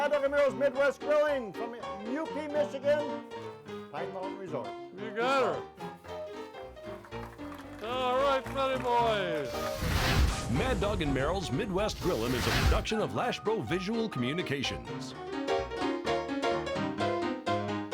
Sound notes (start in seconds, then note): 6.6 audience clapping; 14.6 ragtime piano music